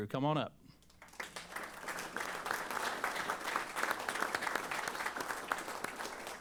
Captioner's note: applause